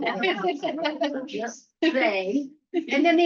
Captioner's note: laughter